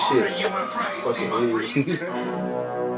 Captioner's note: laughs